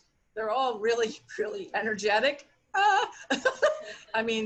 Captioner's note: laughs